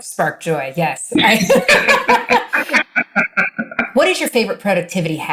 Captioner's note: laughing